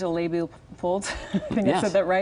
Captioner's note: laughs